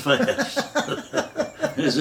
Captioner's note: both laughing